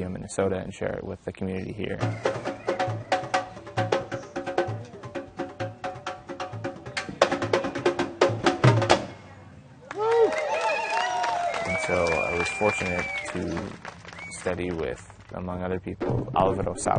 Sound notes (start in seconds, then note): 6.1 drumming; 9.8 cheering